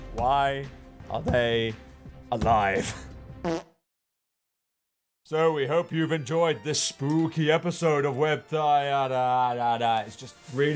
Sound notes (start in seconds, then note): 3.4 fart